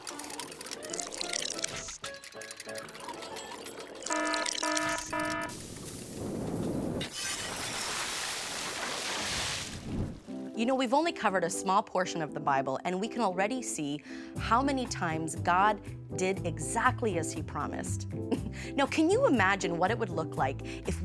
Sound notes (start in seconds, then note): 0.0 upbeat music; 3.9 siren ringing; 7.0 glass exploding